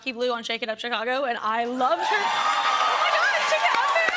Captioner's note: cheers and applause